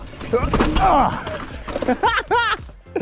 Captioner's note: grunts; laughs